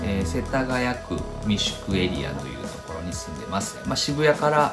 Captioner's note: speaking in foreign language